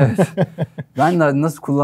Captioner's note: laughter